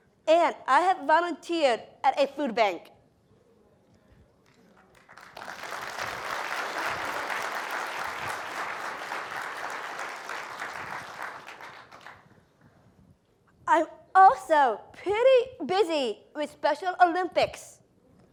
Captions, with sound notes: And I have volunteered at a food bank. [APPLAUSE] >> I'm also pretty busy with Special Olympics.